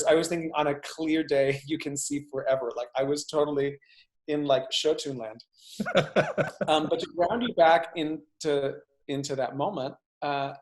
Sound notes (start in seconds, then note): 5.8 laughs